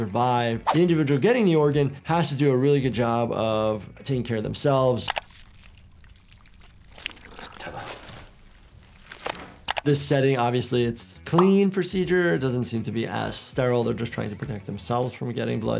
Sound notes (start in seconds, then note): 5.0 skin squelching; 5.1 mouse clicks; 7.5 man speaking in foreign language; 9.6 mouse clicks